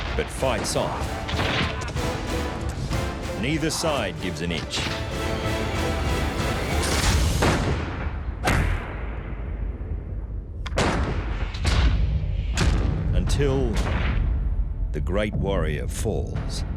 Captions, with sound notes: but fights on. -Neither side gives an inch. -[muskets firing] [pistol fires] [musket fires] Until... the great warrior falls.